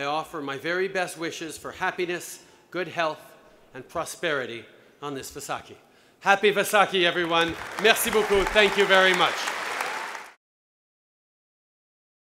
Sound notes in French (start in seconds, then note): 9.5 Applaudissements